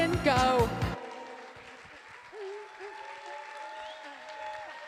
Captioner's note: applause